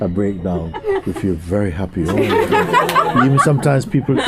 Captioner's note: laughter